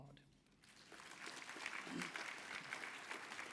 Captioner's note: applause